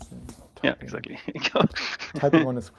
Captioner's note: laughing